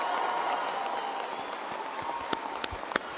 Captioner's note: applause